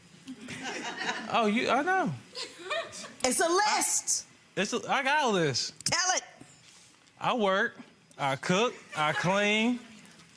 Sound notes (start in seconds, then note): 0.4 audience laughs